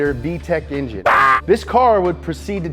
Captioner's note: yelling